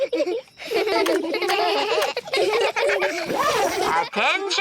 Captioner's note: all giggling; both giggle